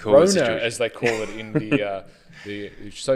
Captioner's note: laughs